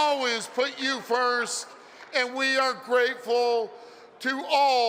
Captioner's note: cheering